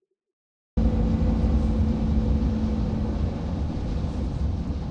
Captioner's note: truck rumbling